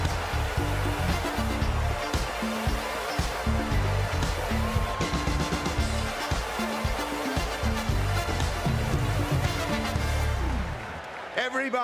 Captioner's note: cheers and applause